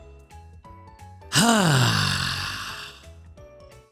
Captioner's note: sighs